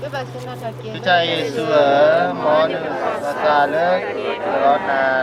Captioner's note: group reciting